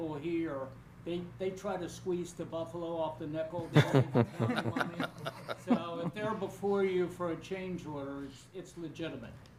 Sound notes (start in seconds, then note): 3.6 laughter